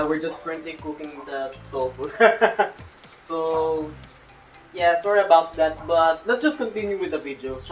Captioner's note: laughs